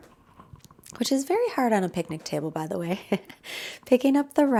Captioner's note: laughs